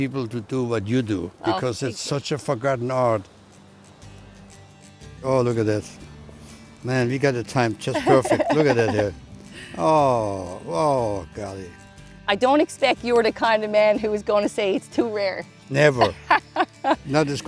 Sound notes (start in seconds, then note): 7.9 laughs; 16.0 laughs